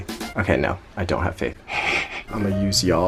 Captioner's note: chuckles